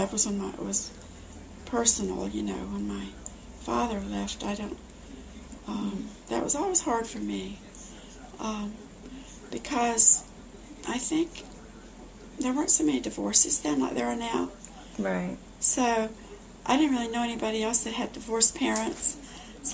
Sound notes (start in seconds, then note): none